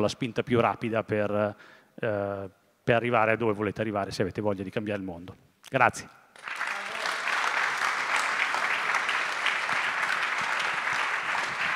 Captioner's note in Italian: Applauso